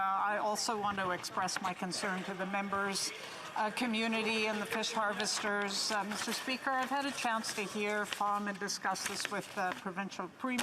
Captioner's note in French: voix de l'interprète